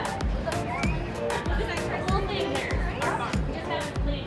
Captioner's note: students chatter